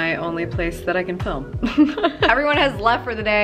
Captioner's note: laughs